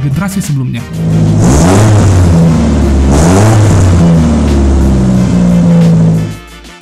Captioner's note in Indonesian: 18R-G engine revving